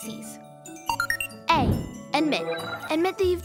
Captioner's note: beeping